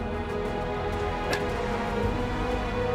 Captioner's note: laughs